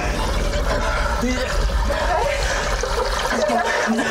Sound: water gurgling; panting; coughing

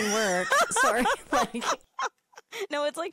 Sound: laughing

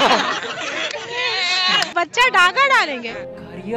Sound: laughter; cheering

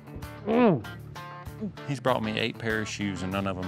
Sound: groans

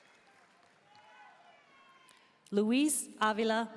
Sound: audience cheering and applauding; audience members shouting

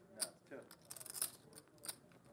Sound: voiceover

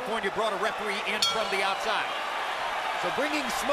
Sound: bell dings

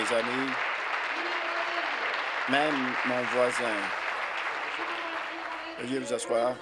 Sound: applause

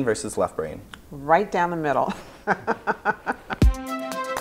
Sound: laughs

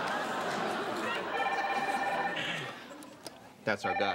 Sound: phone rings

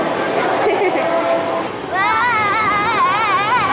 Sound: laughs

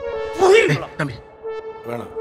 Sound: anger

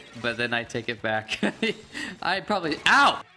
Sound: laughs

